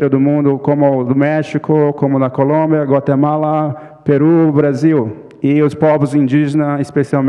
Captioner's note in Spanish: Ponente habla en portugués